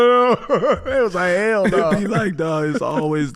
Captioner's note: everyone laughing